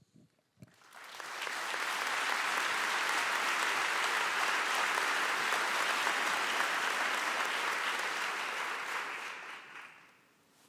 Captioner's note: applause